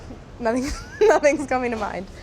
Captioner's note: laughs